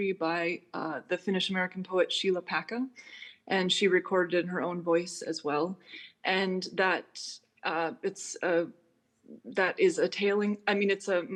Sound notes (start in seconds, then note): none